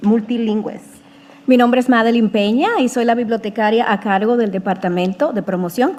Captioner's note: speaking in foreign language